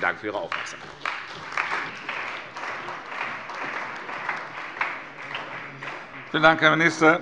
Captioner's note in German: Beifall bei der CDU und dem BÜNDNIS 90/DIE GRÜNEN